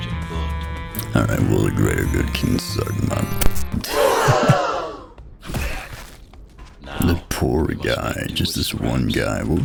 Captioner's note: audience GASP